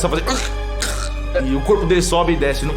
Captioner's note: choking sounds